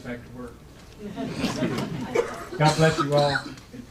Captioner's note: audience laughs